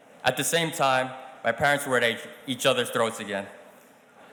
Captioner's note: none